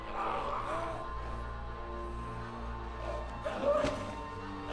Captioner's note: groaning, gurgling